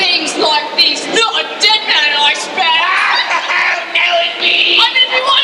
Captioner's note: laughs